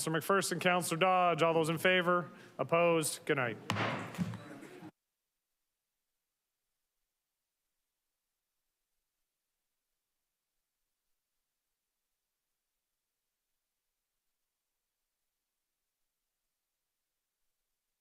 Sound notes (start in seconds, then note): 3.6 gavel thuds